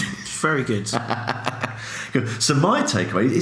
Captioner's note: laughs